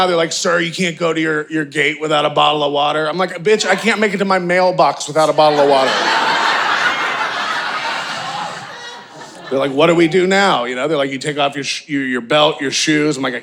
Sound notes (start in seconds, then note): 5.2 audience laughing